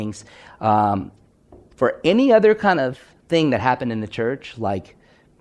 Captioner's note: none